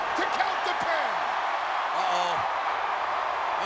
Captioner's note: crowd cheering